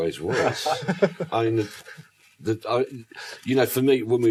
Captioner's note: panel laughs